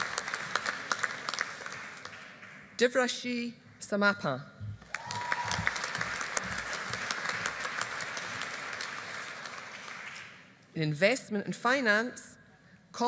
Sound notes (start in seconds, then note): 4.8 audience applauding